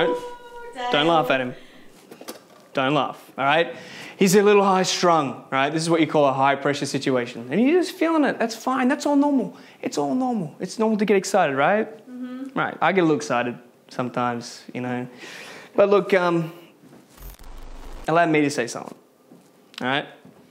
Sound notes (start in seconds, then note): 17.1 static hissing